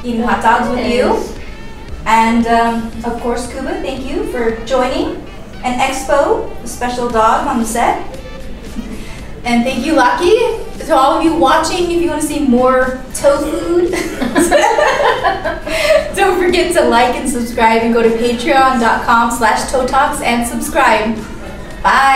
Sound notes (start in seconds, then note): 13.4 laughs